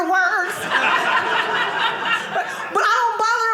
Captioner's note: audience laughing